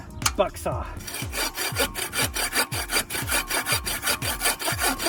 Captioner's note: blade scraping